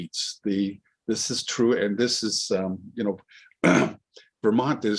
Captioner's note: clears throat